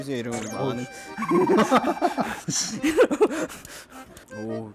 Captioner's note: laughter